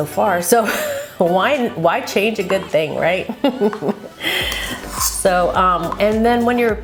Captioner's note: laughs